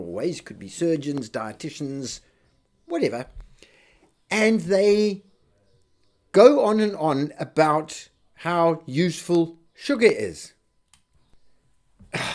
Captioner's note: sighs and gasps